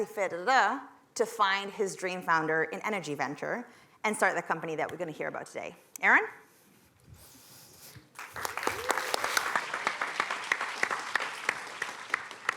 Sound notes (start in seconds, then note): 8.1 applause